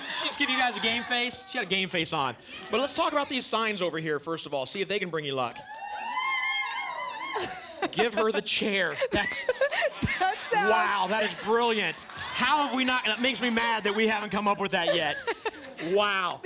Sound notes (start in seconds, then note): 5.4 cheering; 7.4 chuckles